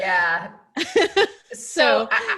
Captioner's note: laughs